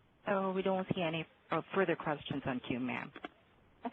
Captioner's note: voiceover